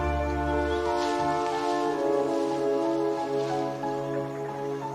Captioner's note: leaves crushing